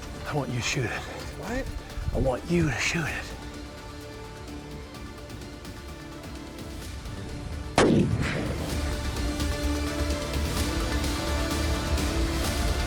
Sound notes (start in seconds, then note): 7.7 rifle blasting; 9.6 suspenseful music